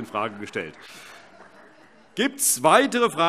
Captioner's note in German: Heiterkeit - Zurufe